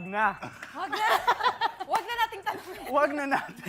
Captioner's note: laughs